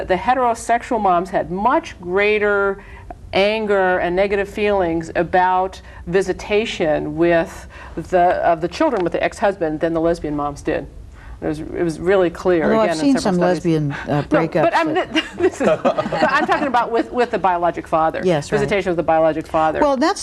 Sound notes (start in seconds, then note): 14.7 laughter